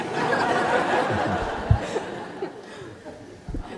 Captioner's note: laughter